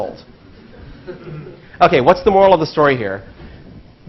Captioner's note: laugh